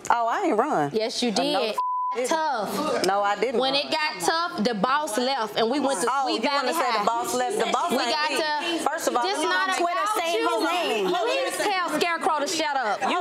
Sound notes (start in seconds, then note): 1.7 beep; 9.7 women arguing